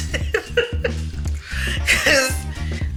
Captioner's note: laughs